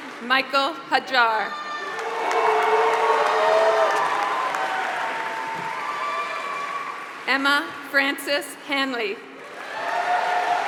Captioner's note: applause; applause